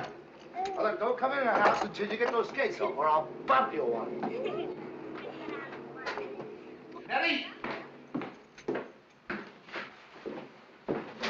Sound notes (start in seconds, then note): 4.1 girls giggling